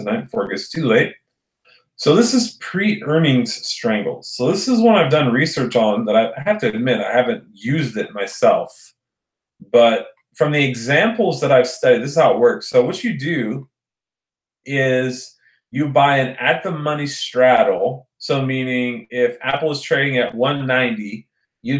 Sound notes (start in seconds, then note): none